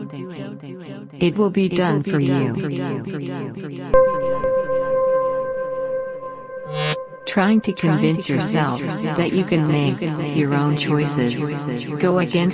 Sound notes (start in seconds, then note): 6.6 screen crackles; 8.6 voice echoing